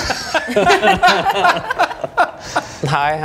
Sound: laughing

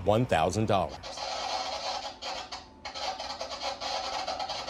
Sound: metal scrapes

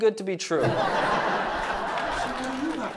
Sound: audience laughs

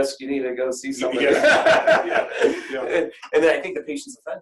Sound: laughter

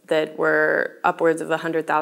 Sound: none

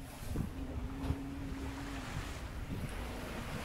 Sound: bee buzzes

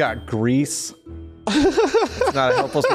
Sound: laughs

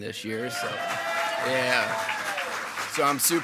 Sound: attendees clapping and cheering

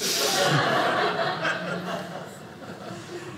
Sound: audience laughing

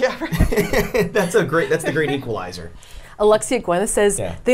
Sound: laughs

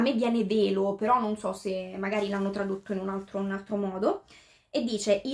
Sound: in Italian

